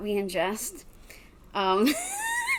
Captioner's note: laughs